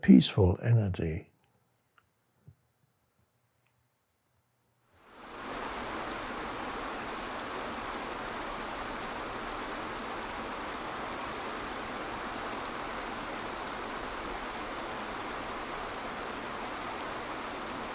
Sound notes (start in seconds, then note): 5.3 water rushing